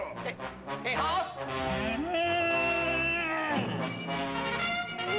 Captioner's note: bellowing